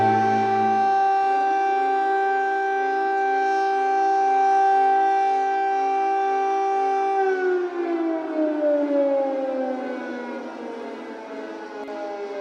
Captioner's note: air raid sirens